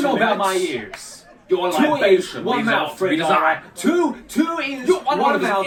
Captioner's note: arguing